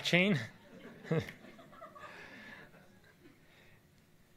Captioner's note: audience laughs